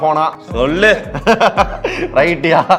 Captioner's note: laughs